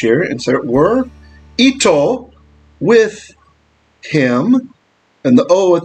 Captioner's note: Hebrew